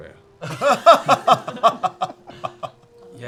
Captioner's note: laughter